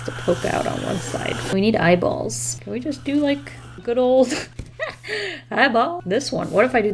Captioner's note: laughs